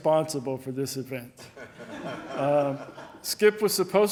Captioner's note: audience laughing